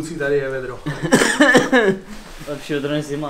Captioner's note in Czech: kašlání